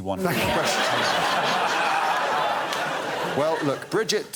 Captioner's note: laughter